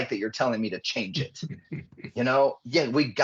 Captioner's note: chuckling